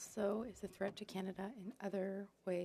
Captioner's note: speaking French